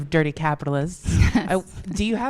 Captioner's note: laughs